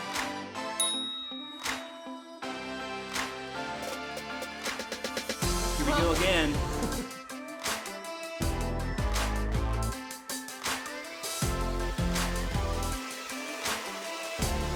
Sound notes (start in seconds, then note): 0.8 chime